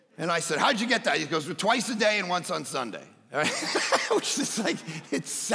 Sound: laughs

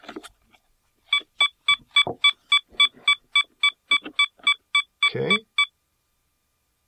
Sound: beeping

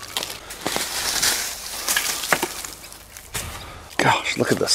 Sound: branches snap; foliage rustles

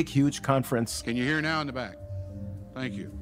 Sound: archival audio conference ambience

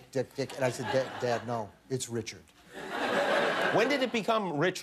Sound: laughter

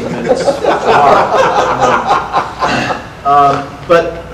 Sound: audience laughter

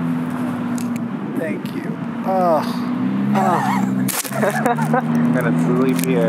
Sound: laughs

